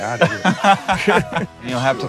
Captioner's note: laughing